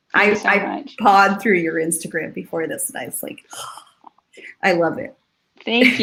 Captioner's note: sighs